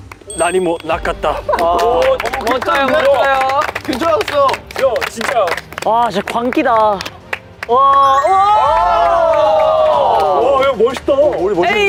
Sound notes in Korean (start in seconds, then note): 4.7 Хүндэтгэл алгаа таш